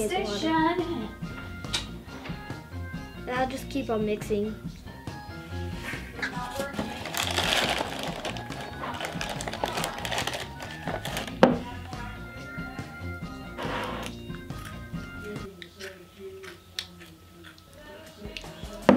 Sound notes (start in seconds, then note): 6.4 plastic bag crinkles; 12.6 crunches cracker